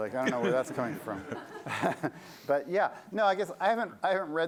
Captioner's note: laughter